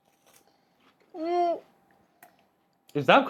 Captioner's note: panics